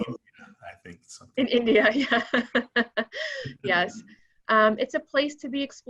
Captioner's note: laughing